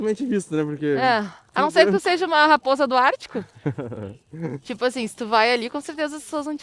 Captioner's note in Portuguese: risadas